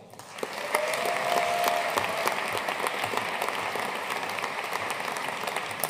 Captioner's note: audience cheering and applauding